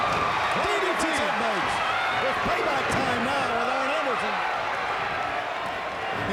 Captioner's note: fans cheering; commentators chattering